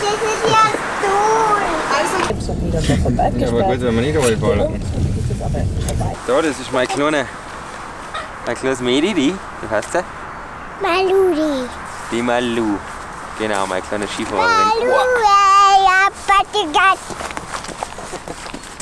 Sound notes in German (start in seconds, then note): 14.3 Kinder Geplapper